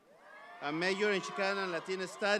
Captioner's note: audience applauds